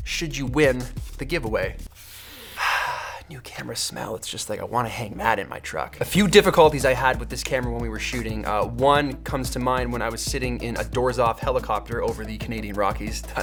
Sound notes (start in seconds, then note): 1.9 inhales deeply